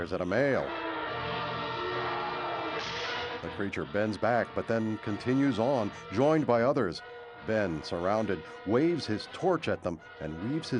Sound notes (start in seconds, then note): 2.8 gunshot